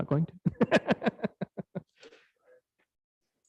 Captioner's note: laughs